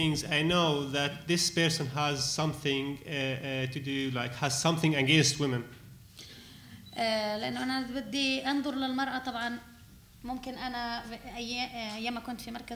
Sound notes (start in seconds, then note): 7.1 speaking arabic